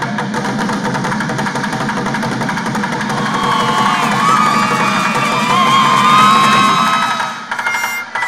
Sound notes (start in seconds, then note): 0.0 rhythmic drumming; 2.8 cheering